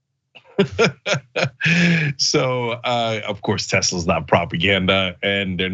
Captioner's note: laugh